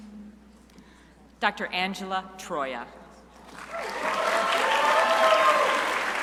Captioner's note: crowd applauding